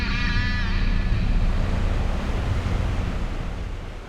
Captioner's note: ocean crashing